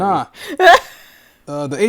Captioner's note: laughing